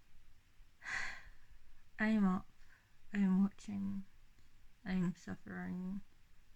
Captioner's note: sighs